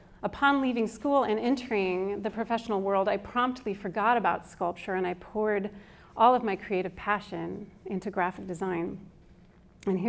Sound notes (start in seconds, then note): none